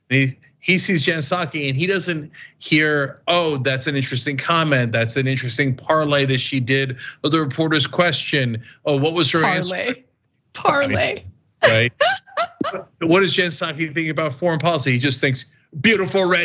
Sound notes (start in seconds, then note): 11.6 laugh